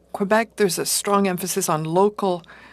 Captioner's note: speaking French